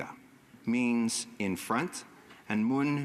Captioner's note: speaking indigenous language